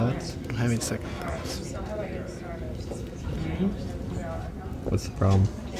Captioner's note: crowd talking